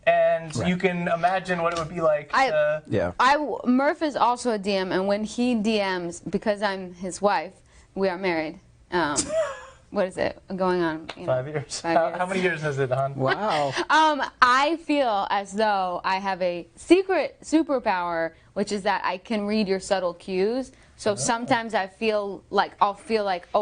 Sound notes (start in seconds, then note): 8.7 laughing